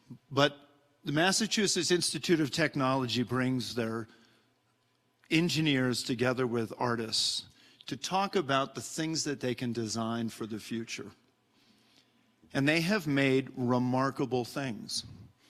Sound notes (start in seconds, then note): none